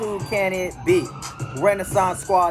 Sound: police siren bellows

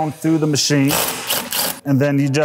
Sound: driver whirring

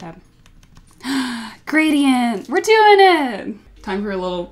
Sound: gasp

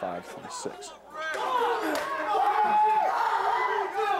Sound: yelling

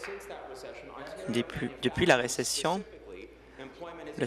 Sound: applause

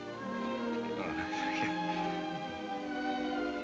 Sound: chuckles

